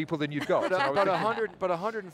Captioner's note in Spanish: risas